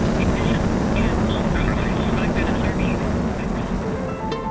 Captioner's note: rocket roaring; gentle bright music